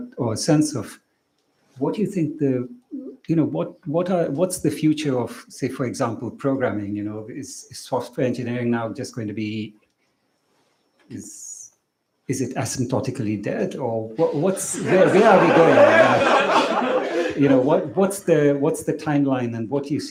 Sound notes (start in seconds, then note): 15.9 laughter